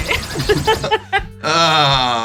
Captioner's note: heavy laser beam; sound effects; laughs